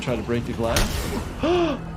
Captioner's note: gasps